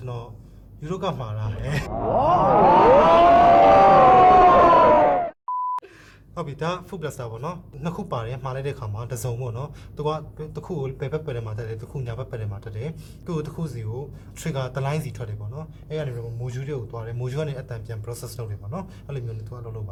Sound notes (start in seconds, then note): 1.6 crowd impressed